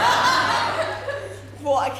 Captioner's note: audience laughter